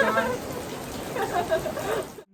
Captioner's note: laughing